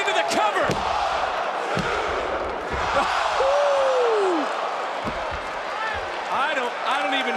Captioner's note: audience cheering